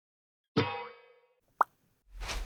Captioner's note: pop